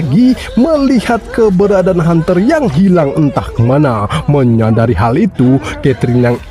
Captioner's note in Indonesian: tertawa